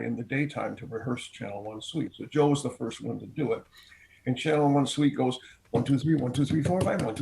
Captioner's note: counts quickly